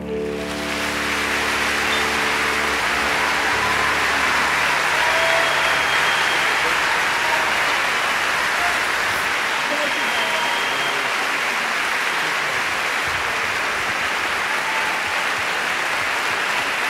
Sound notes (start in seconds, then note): 0.2 audience applauding; 5.4 audience cheering